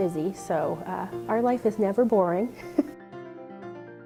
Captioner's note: laughs; upbeat piano music